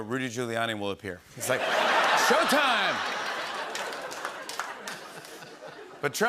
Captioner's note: laughter